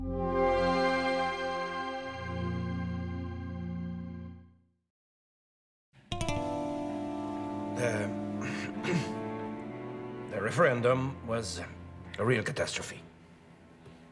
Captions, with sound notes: (deep rumbling ethereal music) (soft tense music) - (clears throat) The referendum was a real catastrophe.